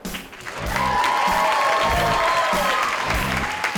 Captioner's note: crowd cheers